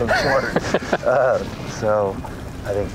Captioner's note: laughs